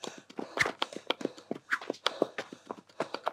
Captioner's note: clippity-clop; huffing-puffing